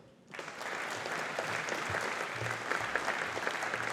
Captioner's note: audience applauding